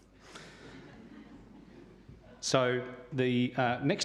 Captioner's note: audience laughs